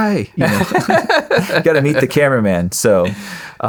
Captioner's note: laughing